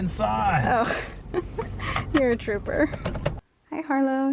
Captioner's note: laughs